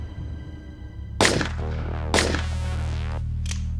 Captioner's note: gunshots